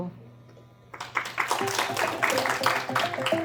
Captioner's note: applause